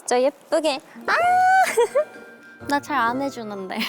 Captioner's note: dolphin squeal